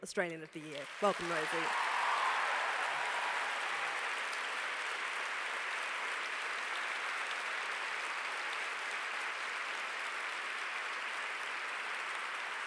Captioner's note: applause